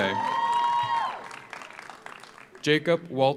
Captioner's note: audience cheers; audience applauds